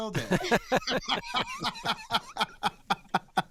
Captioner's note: all laughing